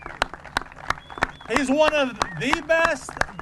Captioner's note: applause